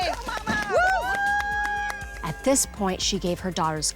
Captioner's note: cheering